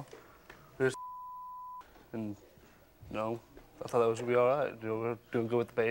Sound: beep

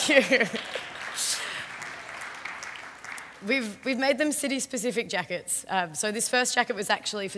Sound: applause

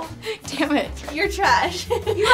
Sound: laughs

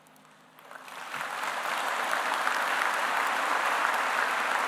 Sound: audience applauding

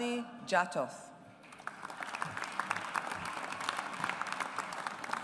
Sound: audience applauds

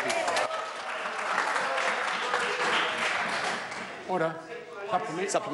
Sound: members applaud

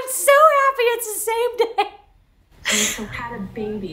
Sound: laughs

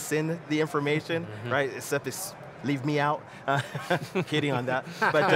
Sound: laughs

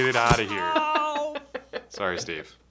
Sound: laughs

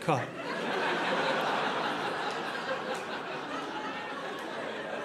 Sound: audience laughing

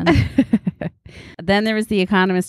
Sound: Cousin Maggie laughs

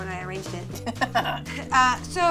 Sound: laughter

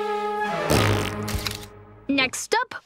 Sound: farting, camera flashing

